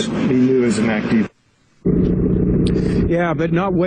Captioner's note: reporter mumbling